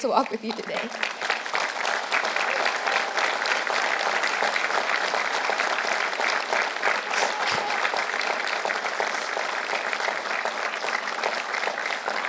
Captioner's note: applause